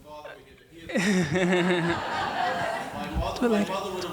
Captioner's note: laughing